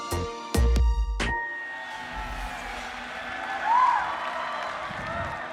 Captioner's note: applause